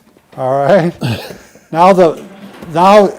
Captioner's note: giggling